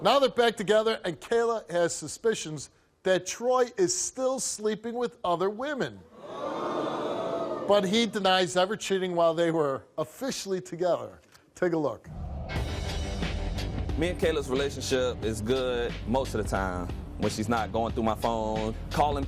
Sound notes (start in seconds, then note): 6.2 audience vocalizes